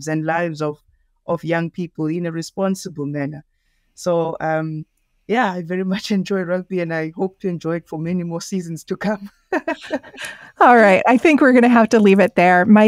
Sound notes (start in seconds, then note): 9.4 laughs; 9.5 chuckles